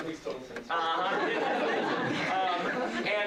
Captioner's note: laughter